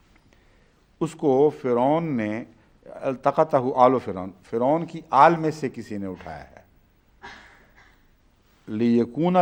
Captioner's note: Arabic